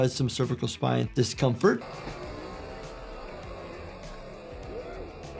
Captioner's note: spectators chattering